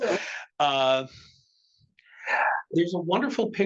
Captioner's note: attendees laughing